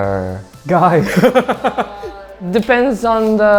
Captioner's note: laughs